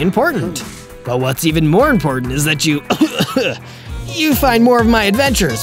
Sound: cough cough

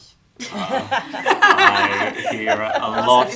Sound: loud laughing

